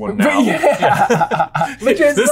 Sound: laughs

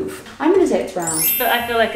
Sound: chimes tinkling

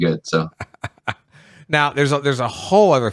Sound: laughs

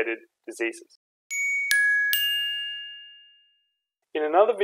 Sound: chiming tones

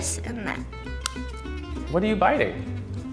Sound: teeth breaking spoon

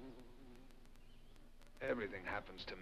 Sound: groans

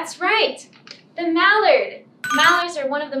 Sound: ringing bell

